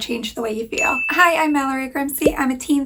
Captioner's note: bell pinging